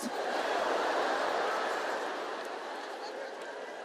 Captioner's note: audience laughs